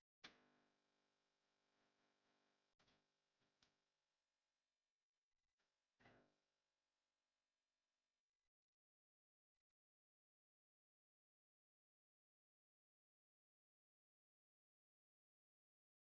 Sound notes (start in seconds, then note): none